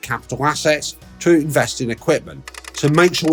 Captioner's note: machine clicking